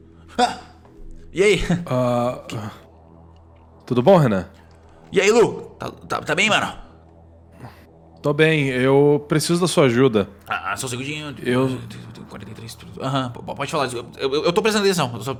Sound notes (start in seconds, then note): 11.6 whisper